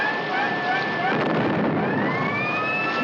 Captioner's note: exploding